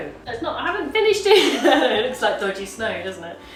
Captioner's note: laughs